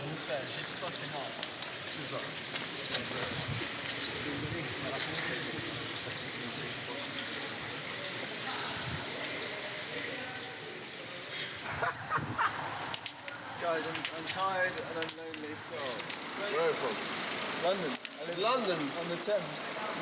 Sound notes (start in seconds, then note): 11.4 laughters